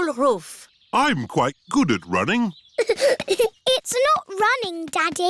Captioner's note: giggling